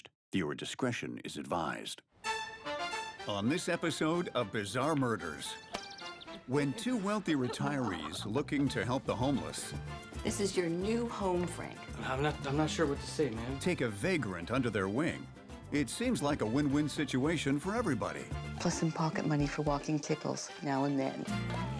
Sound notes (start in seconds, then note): 2.2 bright music; 5.4 birds chirping